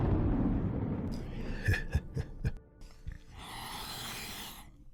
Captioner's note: chuckles